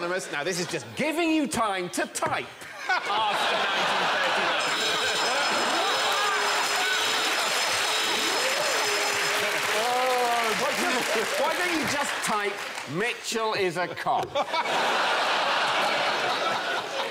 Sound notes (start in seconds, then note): 4.4 klaxon sounds